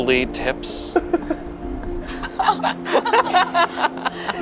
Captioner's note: everyone laughs